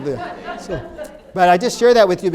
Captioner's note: participants laughing